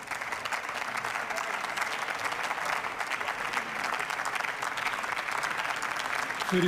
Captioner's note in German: Beifall